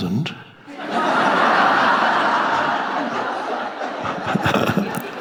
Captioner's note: audience laughing